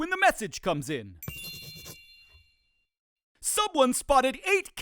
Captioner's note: bell dings